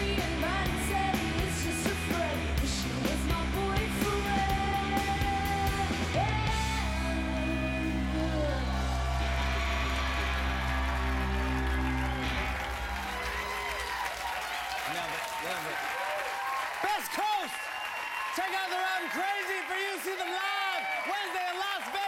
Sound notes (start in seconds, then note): 2.4 cheers and applause